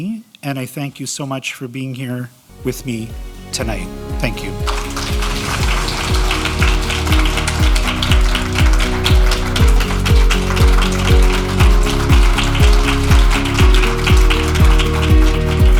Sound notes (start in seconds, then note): 6.9 audience clapping